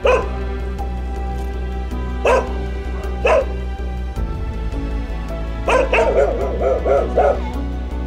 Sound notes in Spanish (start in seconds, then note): 0.0 Ladridos; 2.0 Ladridos; 5.6 Ladridos